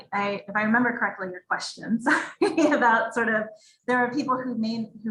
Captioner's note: giggles